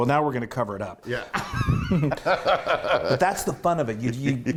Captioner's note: laugh